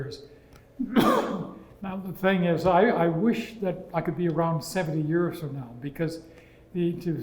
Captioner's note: cough